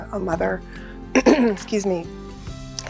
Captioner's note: clears throat